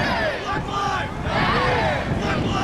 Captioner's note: crowd